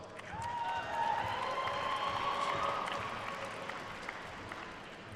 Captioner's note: attendees cheering and applauding